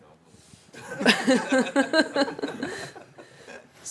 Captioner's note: laughter